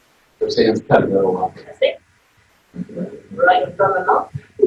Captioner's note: audio warps